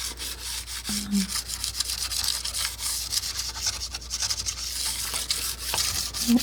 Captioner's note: scratching